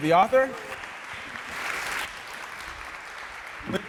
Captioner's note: audience applauding